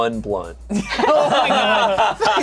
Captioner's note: all laughing